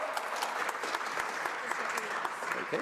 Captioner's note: applause